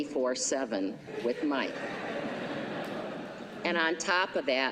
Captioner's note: laughter